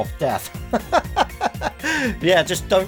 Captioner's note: laughing